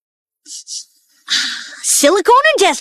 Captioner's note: sniffs